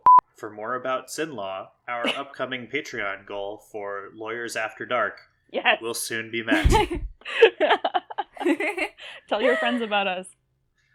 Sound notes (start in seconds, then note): 6.5 laugh